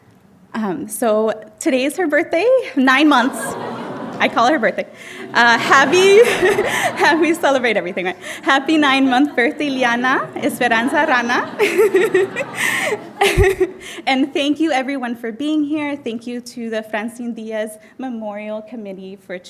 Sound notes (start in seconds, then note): 4.8 audience laughing; 10.9 speaking Spanish; 12.3 laughing